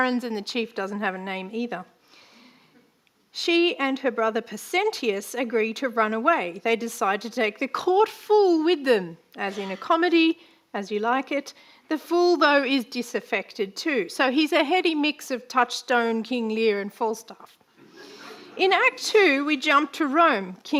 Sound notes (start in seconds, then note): 18.1 audience laughing